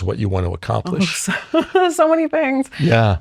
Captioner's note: laughs